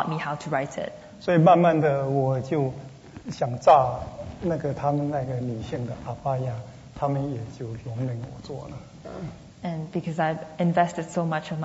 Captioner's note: speaking Mandarin